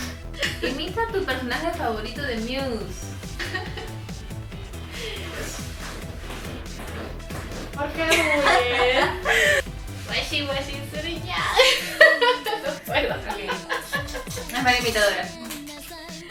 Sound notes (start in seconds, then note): 13.5 laughs